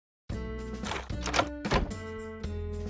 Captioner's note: Villager closing door